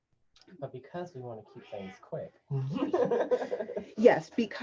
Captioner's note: chuckles